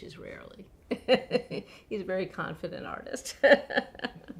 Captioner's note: laughs